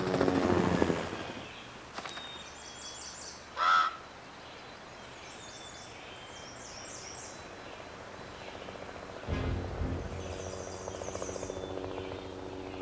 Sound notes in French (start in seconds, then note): 3.5 le corbeau croasse; 9.2 musique orchestrale inquiétante